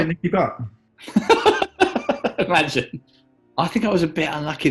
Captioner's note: laughing